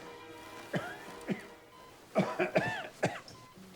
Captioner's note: Randolph coughing